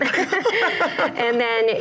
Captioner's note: laughs